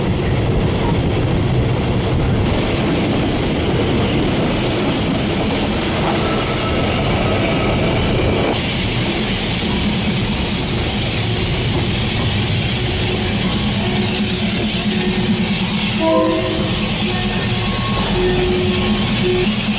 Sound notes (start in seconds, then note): 3.2 Train gradually slowing down near Maeklong Station